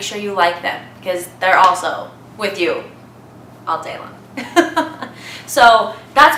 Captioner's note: laughs